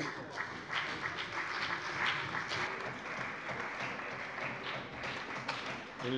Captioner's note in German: Beifall bei der CDU und dem BÜNDNIS 90/DIE GRÜNEN